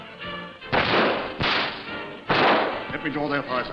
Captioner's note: guns firing